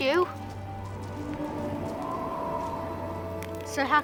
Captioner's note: wind howling